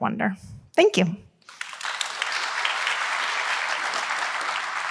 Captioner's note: applause